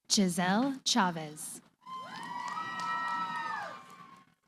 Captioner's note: cheering